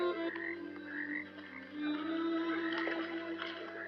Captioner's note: frogs croaking